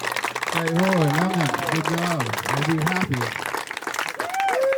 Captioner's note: clapping and laughing